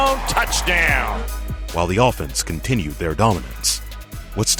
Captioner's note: voiceover